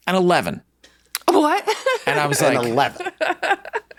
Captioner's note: laughs